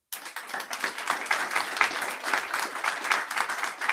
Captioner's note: audience applauding